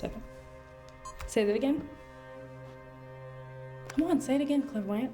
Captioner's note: camera beeps